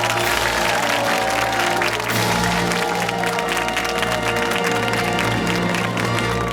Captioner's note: fanfare; cheers and applause